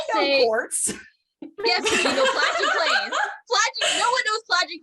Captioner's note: cackling